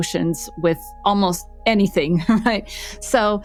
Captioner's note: chuckles